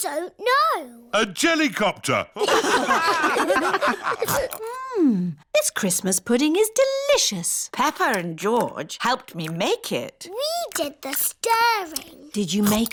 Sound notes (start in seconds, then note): 2.3 all laugh